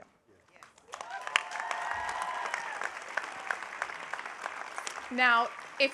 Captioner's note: audience cheering